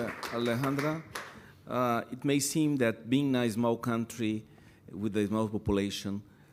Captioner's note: applause